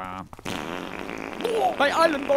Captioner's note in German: Ork furzt laut